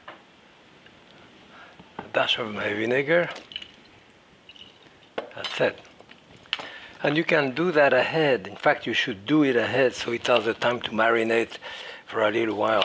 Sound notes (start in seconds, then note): 3.3 vinegar sloshing